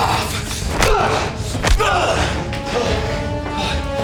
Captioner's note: punches thudding